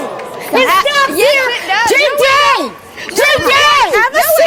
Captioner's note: yells